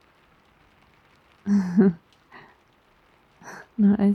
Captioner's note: laughs